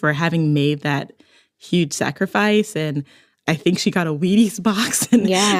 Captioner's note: laughs